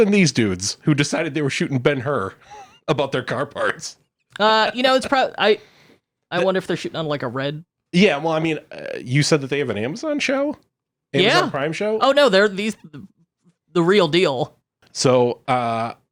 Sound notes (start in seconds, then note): 11.2 laughs; 12.6 groans